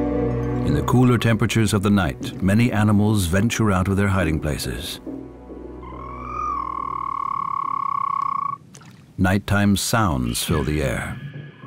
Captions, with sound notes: In the cooler temperatures of the night, many animals venture out of their hiding places. [frog croaks] Night-time sounds fill the air.